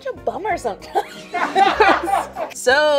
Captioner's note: people laughing